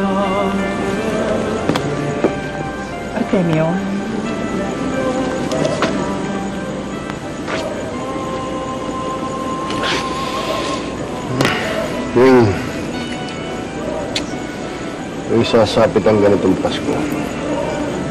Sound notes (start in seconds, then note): 11.2 sighs; 14.0 clicks tongue